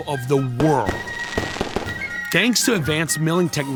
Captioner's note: firecrackers burst